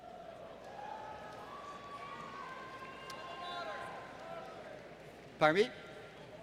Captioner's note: applause